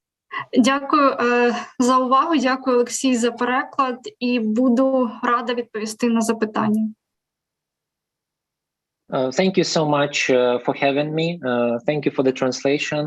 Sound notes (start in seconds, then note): 1.4 foreign Language